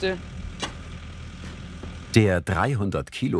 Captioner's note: excavator humming